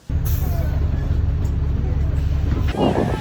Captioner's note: bus sounds; group of voices